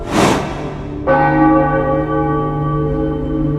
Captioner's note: church bells ringing